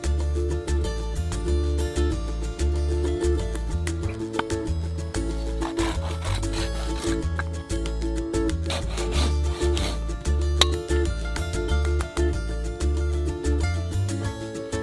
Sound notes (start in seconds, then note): 4.0 thudding wood; 5.3 grinding saw; 11.5 Latin guitar music